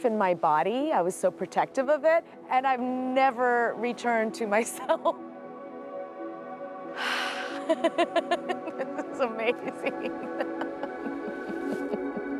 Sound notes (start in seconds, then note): 7.0 sighs; 7.3 laughs